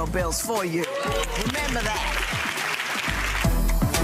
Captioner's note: audience clapping; dramatic music